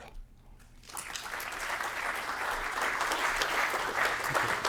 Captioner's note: applause